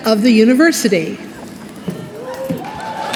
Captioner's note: applause